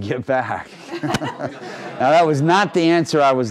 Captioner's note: laughing